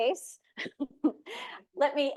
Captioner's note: laughing